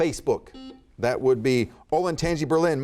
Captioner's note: buzzer beeping